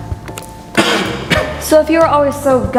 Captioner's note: coughs